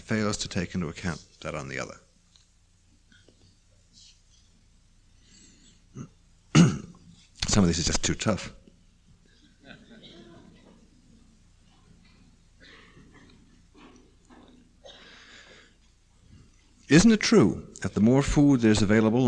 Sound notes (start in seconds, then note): 4.7 pause; 6.5 clears throat; 11.3 pause; 11.3 scattered laughter